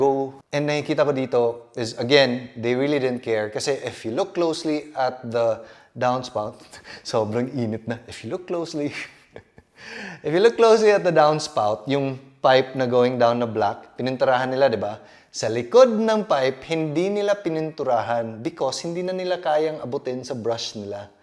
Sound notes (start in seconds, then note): 9.0 giggles